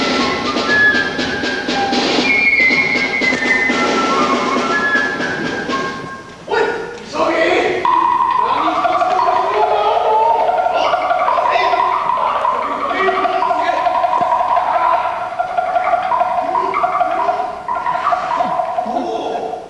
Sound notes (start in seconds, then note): 16.3 grunts